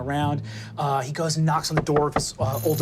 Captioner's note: knocks